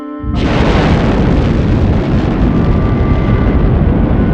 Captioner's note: rocket launching